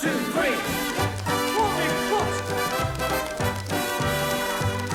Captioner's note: tap shoes click